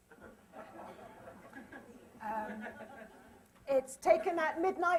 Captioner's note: laughter